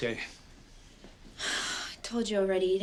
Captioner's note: exhales